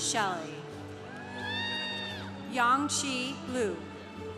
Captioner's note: congregation applauding